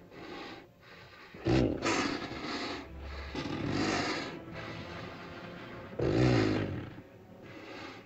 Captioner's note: dinosaur snorts; ominous music; dinosaur grumbles; ominous music